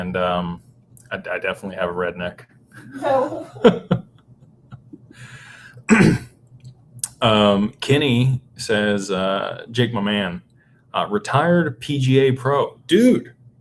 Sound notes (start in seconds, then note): 2.8 laughter; 5.8 clears throat